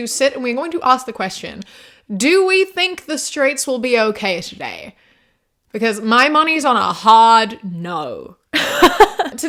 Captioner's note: laughs